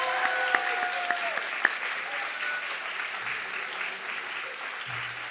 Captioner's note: audience clapping and cheering